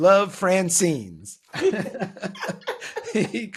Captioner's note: laughing